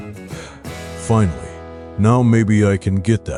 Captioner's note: sigh